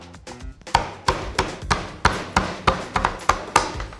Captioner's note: bashing